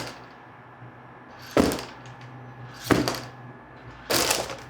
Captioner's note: machine banging